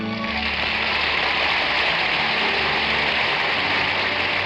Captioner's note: audience applauding